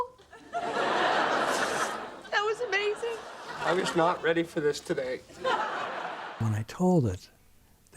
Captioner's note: laughter